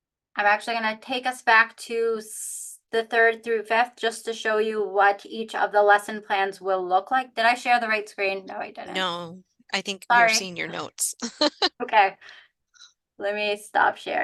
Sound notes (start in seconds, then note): 11.2 brief laughter